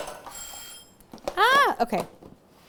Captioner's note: bell Ringing